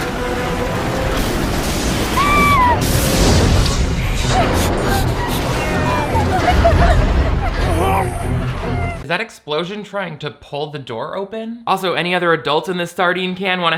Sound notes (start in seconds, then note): 0.1 dramatic music; 2.1 woman screams; 5.7 girl cries; 5.7 man moans